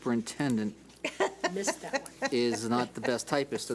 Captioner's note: laughs